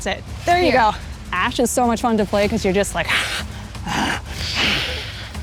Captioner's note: growls